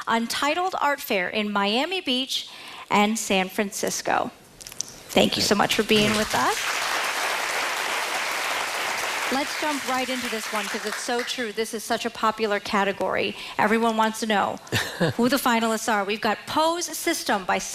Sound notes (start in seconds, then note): 11.3 applause